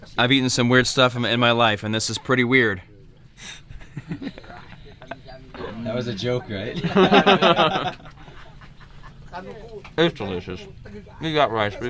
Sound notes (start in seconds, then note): 6.6 group laughs